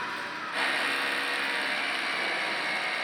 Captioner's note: drilling